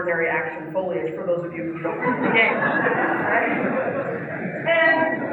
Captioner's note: laugh